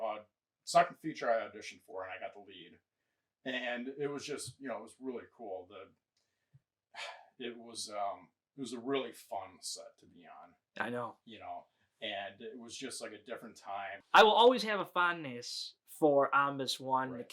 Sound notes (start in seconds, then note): 7.0 sighs